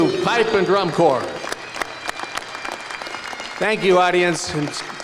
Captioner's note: applause